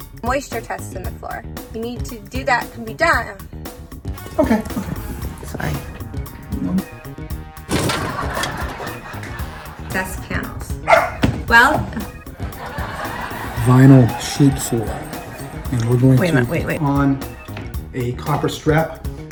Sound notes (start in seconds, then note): 7.7 audience laughing; 7.8 robot clattering; 10.8 dog barking; 11.8 audience laughs